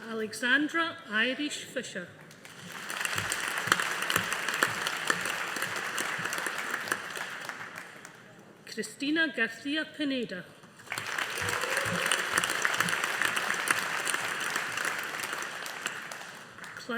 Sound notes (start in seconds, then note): 2.4 audience applauding; 10.8 audience applauding